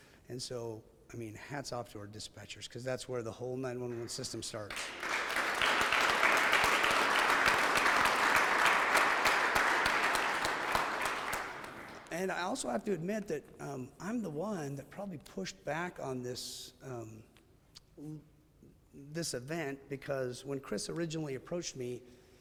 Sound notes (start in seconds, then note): 3.9 audience clapping